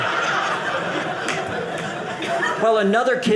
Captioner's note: audience laughing